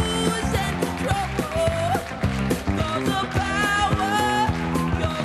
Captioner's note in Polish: Aplauz